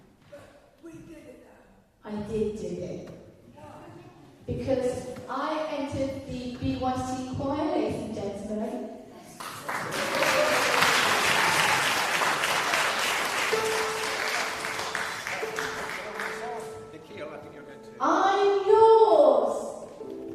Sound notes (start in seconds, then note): 9.4 applause